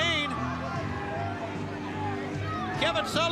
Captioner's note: crowd chatter